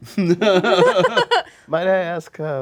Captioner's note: laughing